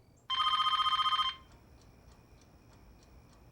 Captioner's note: phone ringing